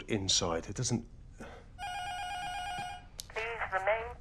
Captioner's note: intercom buzzer rings; intercom